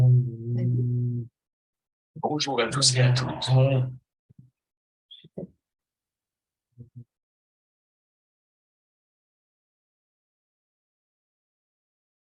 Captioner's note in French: voix de synthèse